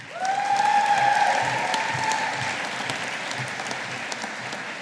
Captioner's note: audience applauding